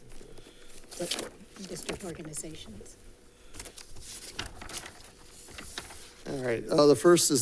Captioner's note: paper rustling